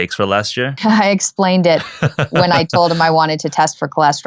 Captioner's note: laughing